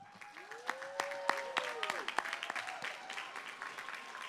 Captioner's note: applause